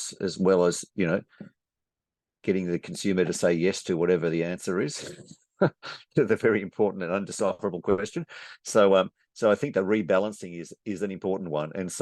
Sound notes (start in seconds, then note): 5.6 chuckles